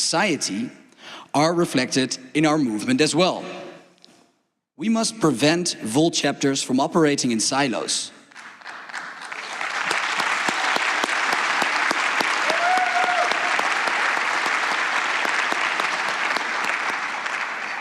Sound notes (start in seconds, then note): 8.3 applause